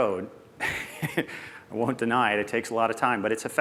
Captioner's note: laughs softly